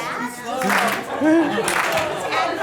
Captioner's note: voiceover; laughs; voiceover